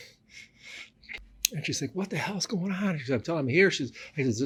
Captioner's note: laughs